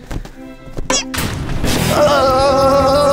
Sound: squeaks

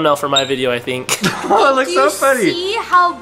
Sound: laughing

